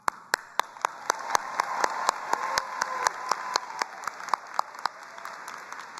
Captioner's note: both applauding